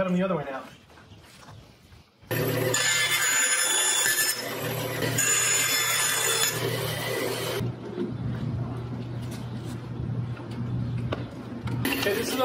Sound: more cutting

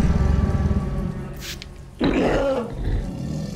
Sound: roaring; spraying

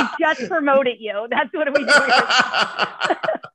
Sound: laughter

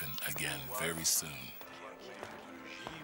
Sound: footsteps pattering

